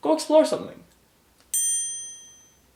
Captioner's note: ding